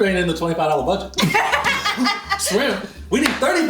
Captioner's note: laughing